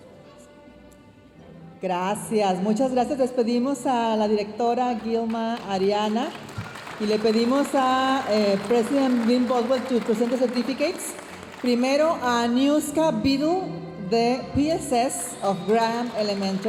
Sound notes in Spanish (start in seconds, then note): 7.8 hablando en inglés